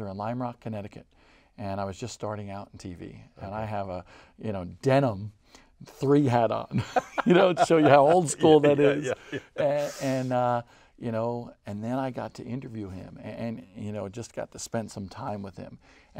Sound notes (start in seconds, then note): 6.7 laughing